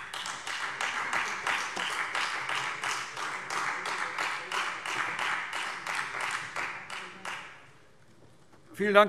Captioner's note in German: Beifall Freie Demokraten